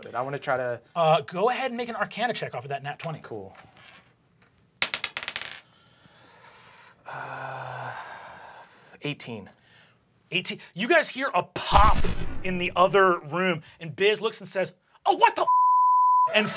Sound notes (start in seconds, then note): 4.8 die clatters; 6.3 sighs; 15.4 beep